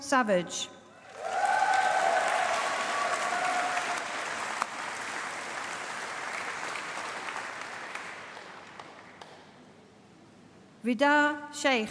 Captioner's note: applause